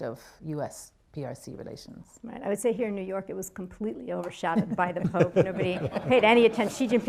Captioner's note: laughter